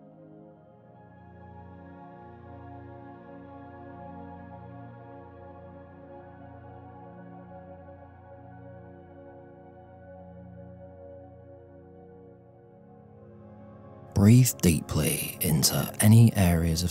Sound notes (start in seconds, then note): 1.7 15s silence